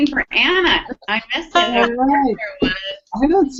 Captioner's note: feedback cuts audio